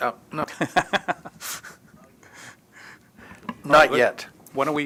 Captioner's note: laughter